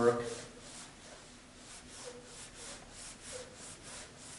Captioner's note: scribbling